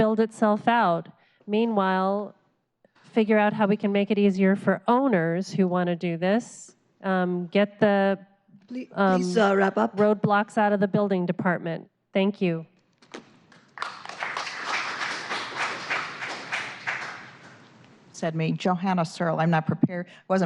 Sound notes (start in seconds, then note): 13.5 applause